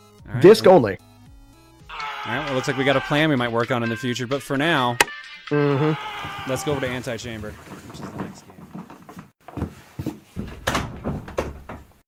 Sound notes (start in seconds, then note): 4.9 light switch click; 8.4 footsteps; 10.3 door opening and closing